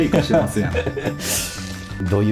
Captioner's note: laughs